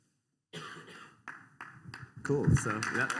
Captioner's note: applause